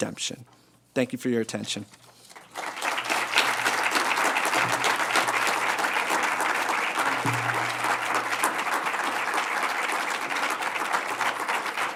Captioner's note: applause until 58:52